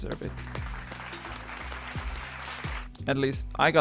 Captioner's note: applause